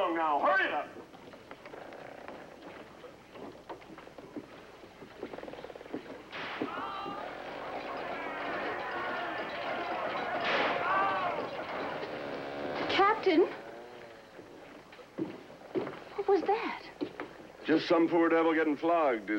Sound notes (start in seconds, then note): 6.6 whipping, Man Screaming; 10.4 whipping Continues, Men Yelling